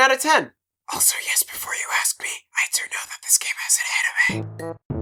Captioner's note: whispering